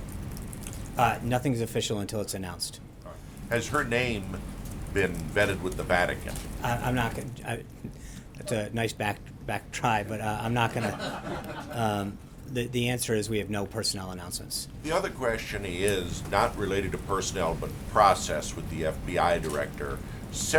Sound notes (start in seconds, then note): 12.7 laughter